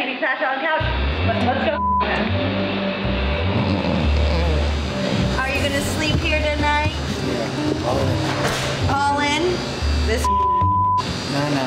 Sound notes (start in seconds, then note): 3.3 snoring